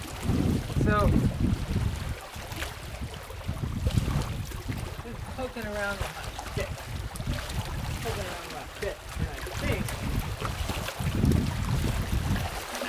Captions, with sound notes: So... [water splashing] Just pokin' around with my stick. Poking around with my stick [water splashing]